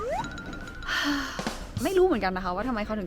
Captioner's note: sigh